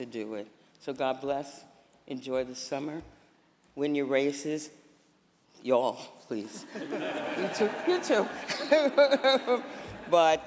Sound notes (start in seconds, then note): 6.5 laughter